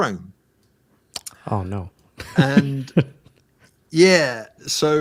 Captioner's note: laughs